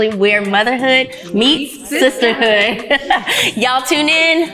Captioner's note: laughs